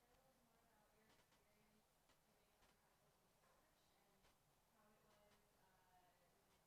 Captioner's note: speaks faintly